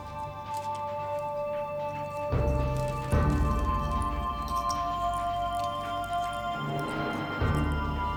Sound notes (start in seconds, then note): 2.3 beetles rustling